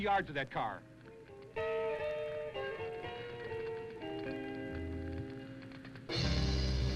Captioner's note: fire crackling; somber music